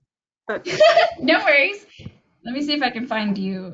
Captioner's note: laughs